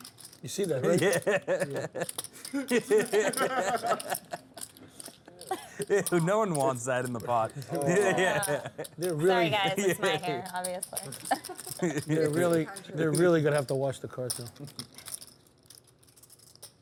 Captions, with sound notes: - You see that right? (laughter) No one wants that in the pot. - Sorry guys, it's my hair obviously. - They're really gonna have to wash the cards now.